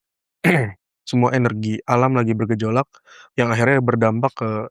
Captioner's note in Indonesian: berdehem